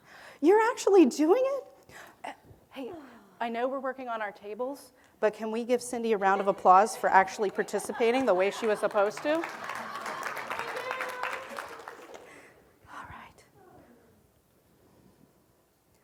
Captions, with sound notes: You're actually doing it? Hey, I know we're working on our tables, But can we give Cindy a round of applause for actually participating the way she was supposed to? [Applause.]